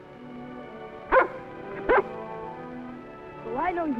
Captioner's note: barking